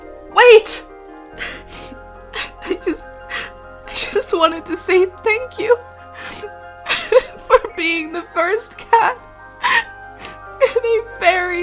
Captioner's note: crying/voice breaking